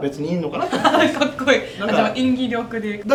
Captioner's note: laughs